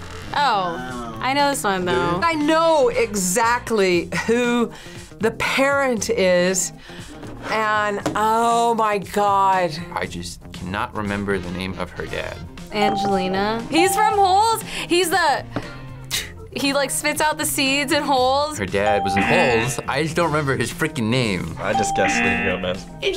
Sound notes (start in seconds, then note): 16.0 spits